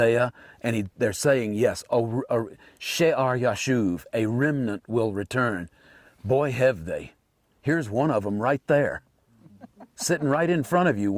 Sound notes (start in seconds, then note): 2.9 Hebrew phrase